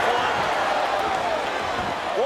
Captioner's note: audience cheering